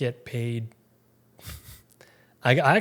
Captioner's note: chuckles